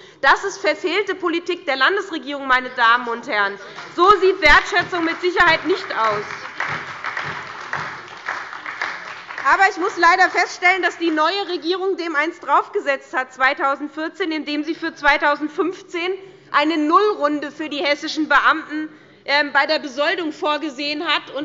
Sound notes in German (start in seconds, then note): 6.3 Beifall bei der SPD